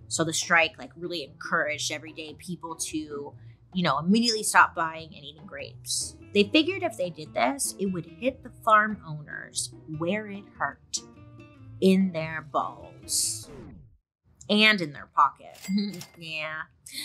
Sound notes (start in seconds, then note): 13.3 record scratches; 15.5 cash register chimes